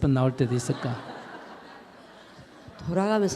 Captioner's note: audience Laughter